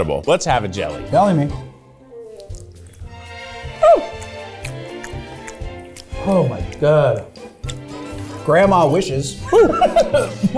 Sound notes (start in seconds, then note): 1.8 gentle music; 3.8 squeals